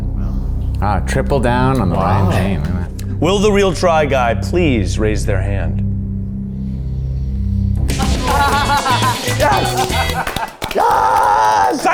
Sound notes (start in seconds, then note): 7.9 all laughing; 8.0 bright music